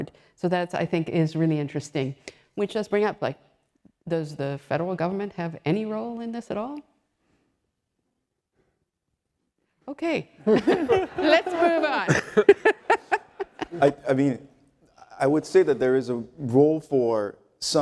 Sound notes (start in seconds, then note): 10.4 laugh